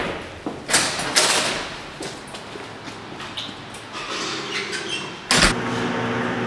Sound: footsteps; door opens and closes

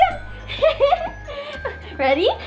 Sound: laughing

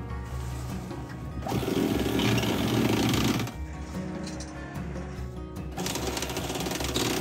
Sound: sound of the winch

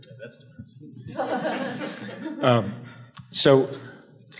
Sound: audience laughs

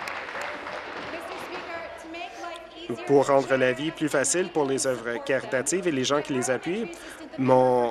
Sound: cheers; applause

